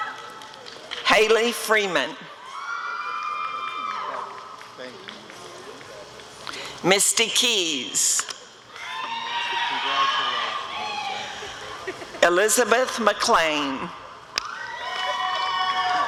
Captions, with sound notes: Haley Freeman [audience cheering] Misty Keys [audience cheering] Elizabeth McClain [audience cheering]